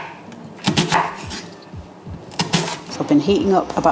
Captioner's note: chop chop chop